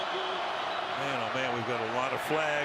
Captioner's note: whistle